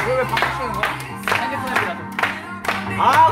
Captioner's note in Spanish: aplauso